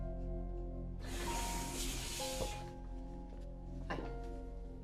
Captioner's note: sliding door whooshing